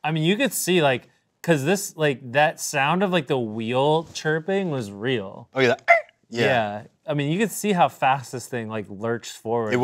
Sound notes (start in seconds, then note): 6.0 screeches